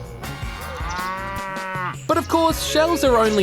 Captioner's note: mooing